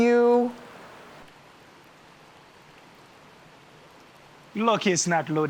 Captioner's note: water gushing